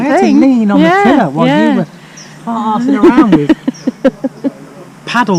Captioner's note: laughs